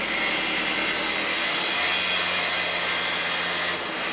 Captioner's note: circular saw whirring